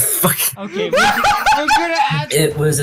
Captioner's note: block laughs